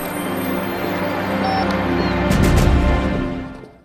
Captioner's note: phone beeping